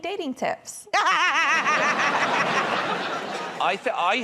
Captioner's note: laughter